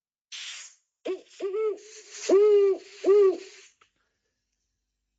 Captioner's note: owl audio